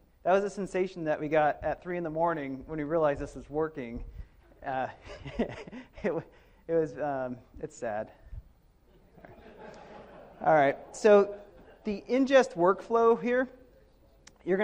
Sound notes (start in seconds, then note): 5.0 speaker laughs; 9.1 audience laughs